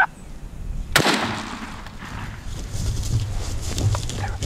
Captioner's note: turkey calling; gunshot